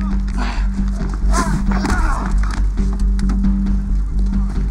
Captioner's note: groans